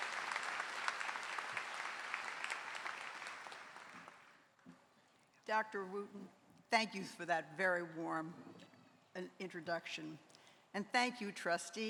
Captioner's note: applause